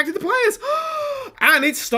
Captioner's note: surprised Gasp